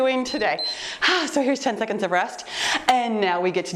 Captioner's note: timer beeps; sighs